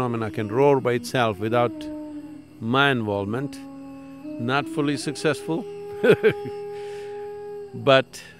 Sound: laughs

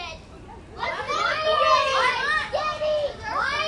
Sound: excited voices

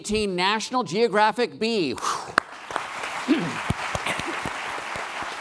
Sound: applause

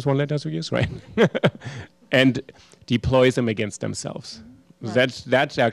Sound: laughter

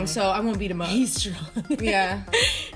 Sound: laughing

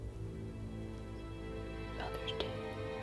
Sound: whispering

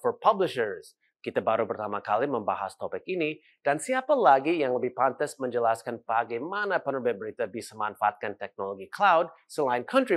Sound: non-english speech

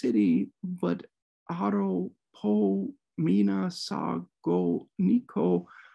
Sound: speaking Greek

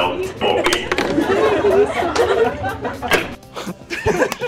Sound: students all murmur; laughing

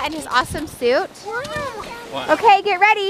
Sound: talking

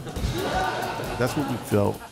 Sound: laughter

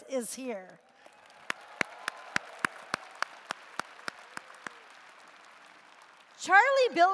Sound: applause

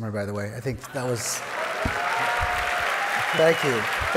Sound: audience applauding

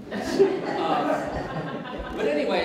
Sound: audience Laughs

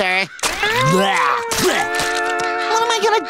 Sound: gagging

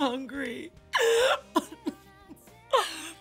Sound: crying

